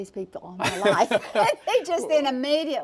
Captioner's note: laugh